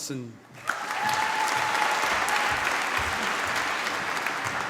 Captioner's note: cheering, applause